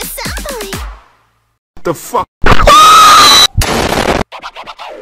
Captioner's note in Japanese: 大声で爆発